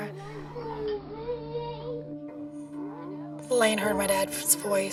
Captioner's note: babbling